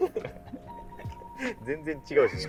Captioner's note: laughing